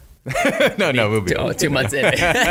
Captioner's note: laughing